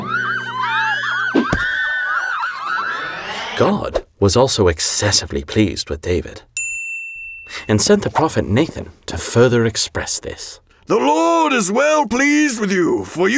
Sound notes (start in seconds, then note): 0.0 women cheering; 6.6 bell dinging